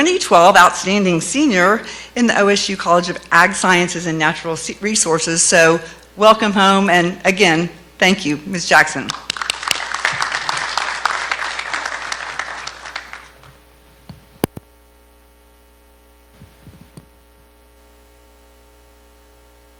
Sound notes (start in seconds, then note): 9.1 clapping